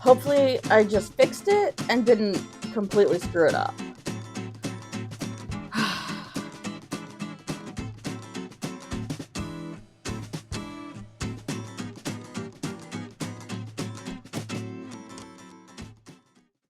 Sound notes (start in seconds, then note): 5.7 sigh; 7.3 jaunty music continues